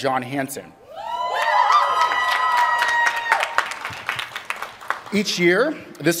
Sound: applause

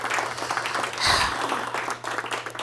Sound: applause; sighs

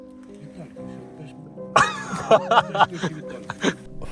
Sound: laughter

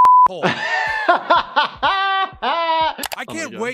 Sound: beep; laughs

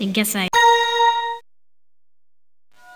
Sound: chime

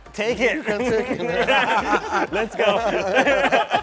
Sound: laughing

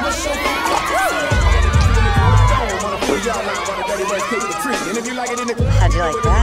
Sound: raucous whooping

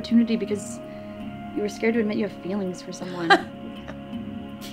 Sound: Paulie sniggers

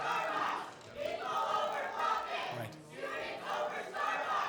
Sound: students chanting

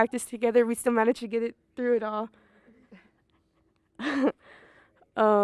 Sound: laughs

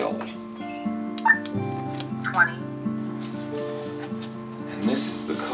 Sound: beeps

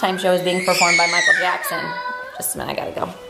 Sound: screaming

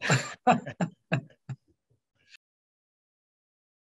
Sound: both laughing

